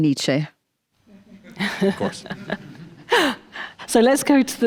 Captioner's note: audience chuckles